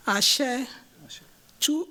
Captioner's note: non-english